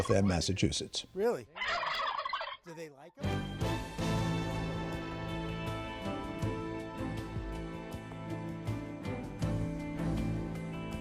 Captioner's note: gobbling